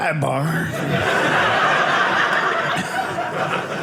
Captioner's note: audience laughing